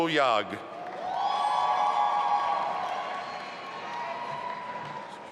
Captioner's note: audience applauding